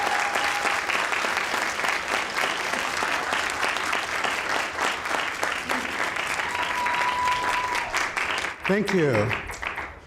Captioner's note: audience applauds